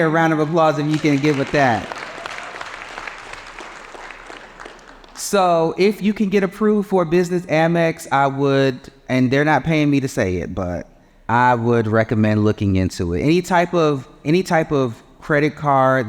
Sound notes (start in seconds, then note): 1.9 audience applauding